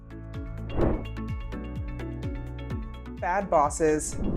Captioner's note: bright uplifting music; logo whooshing